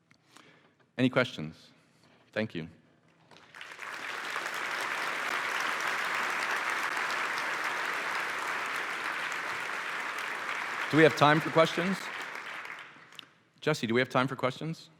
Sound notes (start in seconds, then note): 5.4 applause